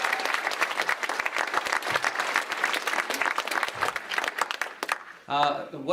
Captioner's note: clapping and cheering